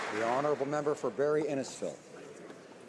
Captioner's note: some applause